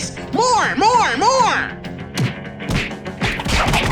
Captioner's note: loud punches